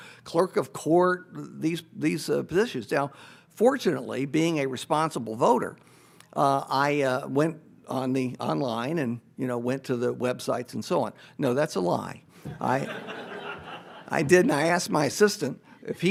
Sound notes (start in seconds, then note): 12.5 audience laughs